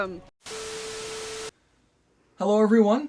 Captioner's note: static